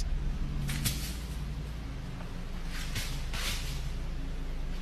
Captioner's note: brush cracking